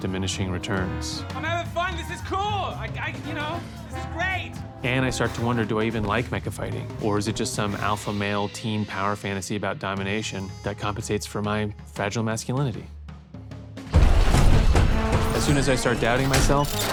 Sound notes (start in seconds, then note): 13.0 robots whirring